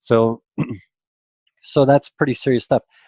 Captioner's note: clears throat